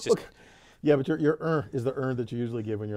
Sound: laugh

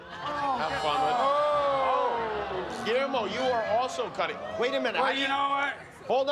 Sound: cheers and applause

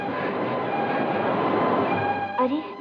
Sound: water Waves Sound

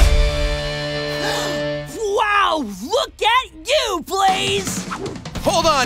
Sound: gasping

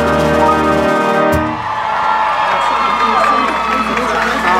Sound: cheering

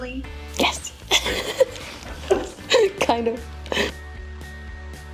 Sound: laughs

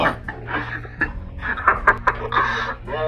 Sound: chuckling

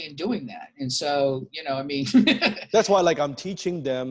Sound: laughs

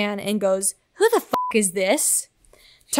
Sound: beep

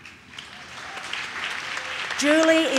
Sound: audience claps

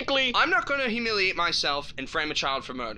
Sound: none

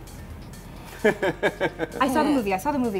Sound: laughs

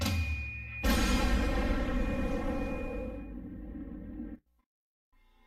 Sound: explosion

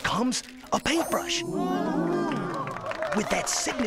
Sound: crowd applauds

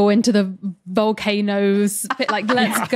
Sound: others laughing

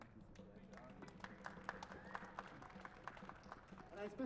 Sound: applause

